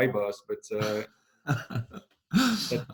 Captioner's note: chuckles